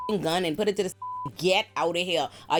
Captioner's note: beep